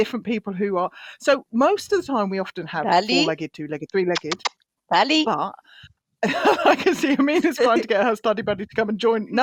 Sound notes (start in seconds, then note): 4.1 kissing sounds; 6.2 laughing